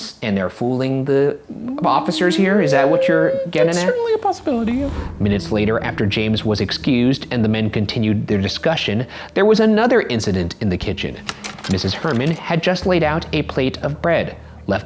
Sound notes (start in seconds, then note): 5.3 dramatic music; 10.9 projector clicking